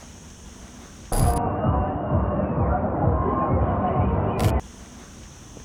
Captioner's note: ambient sound of the park when it was open